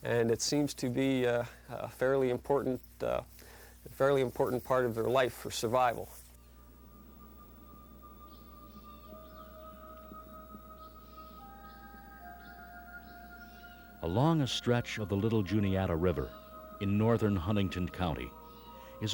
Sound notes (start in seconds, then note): 6.5 birds chirping; 6.5 bright orchestral music